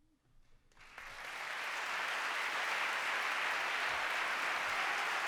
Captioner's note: applause